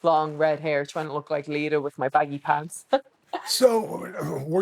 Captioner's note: laughs